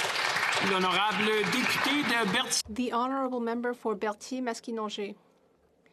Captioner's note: some Applause